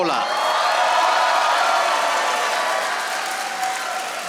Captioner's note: audience applauding